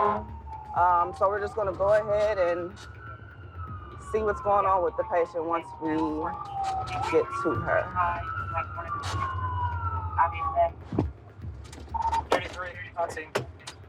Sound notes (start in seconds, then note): 7.6 siren